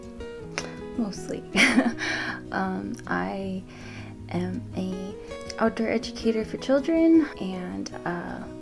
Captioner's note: laughs